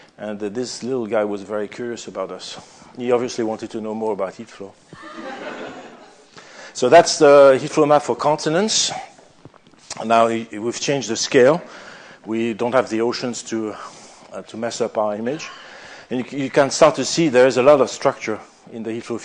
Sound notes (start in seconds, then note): 4.9 laughter